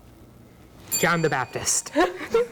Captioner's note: bell dinging; laughing